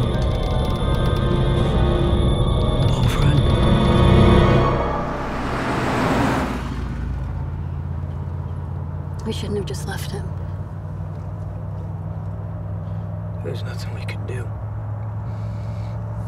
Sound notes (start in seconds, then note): none